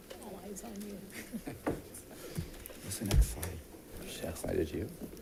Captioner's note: audience murmuring